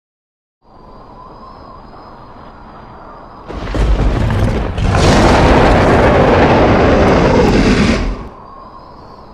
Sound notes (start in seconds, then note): 0.0 wind howling; 3.4 thunder crash and monstrous roar